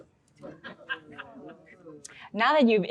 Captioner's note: audience laughs